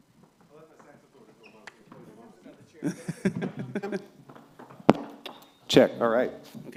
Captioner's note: background conversations